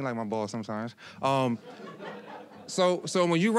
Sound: audience laughing

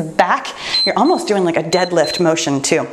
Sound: timer beeps

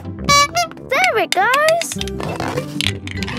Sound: honking

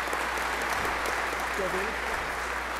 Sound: applause

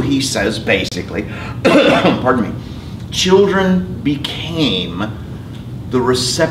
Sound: cough

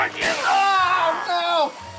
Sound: poof

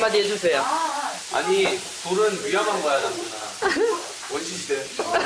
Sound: giggles

